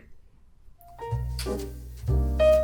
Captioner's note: kiss